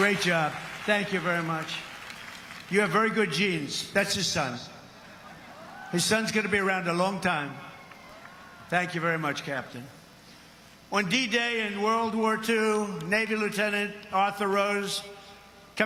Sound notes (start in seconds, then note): 0.9 crowd cheering